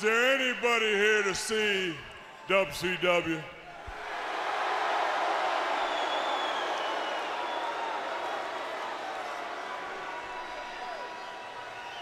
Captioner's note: crowd cheering